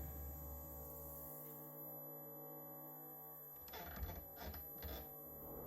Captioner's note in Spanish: timbre agudo